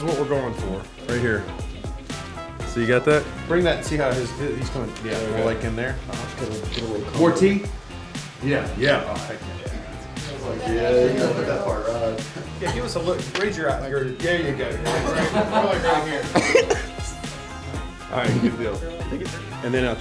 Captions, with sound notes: - This is what we're going for, right here. So you got that? Bring that, see how he's coming like in there? More teeth. Yeah, yeah. - [Voiceover] And then I was like "Yeah, you look at that part." - [Voiceover] Give us a look, raise your eye, there ya go. - [Voiceover] Don't look right here. (laughing) - [Voiceover] Alright, good deal. - [Voiceover] Thank you sir.